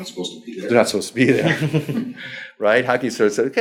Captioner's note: laughs